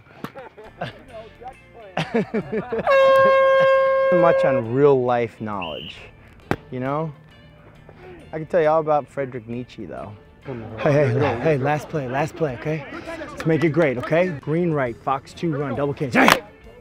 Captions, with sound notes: (laughs) (horn blows) Not much on a real life knowledge. You know? I can tell you all about Frederick Nietzsche though. Hey, last play, last play, okay. Let's make it great, okay. Green, right, fox two run, double king.